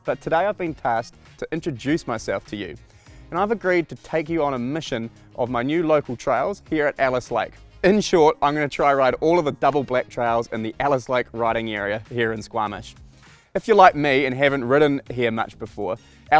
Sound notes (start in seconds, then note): none